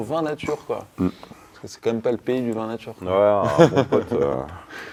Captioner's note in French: rires